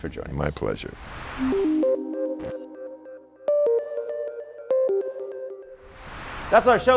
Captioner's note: screen whooshing; light electronic music